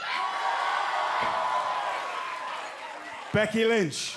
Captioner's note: cheers and applause